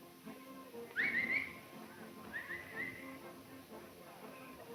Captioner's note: Montana whistling